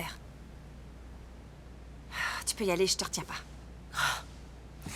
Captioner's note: sighs